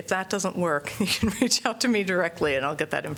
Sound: laughter

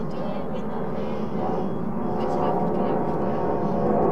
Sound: airplane passing

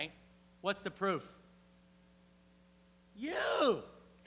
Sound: <i>Brief pause</i>

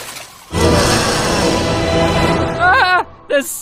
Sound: roar

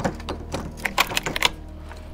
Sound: unlocks

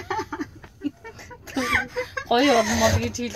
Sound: laughs

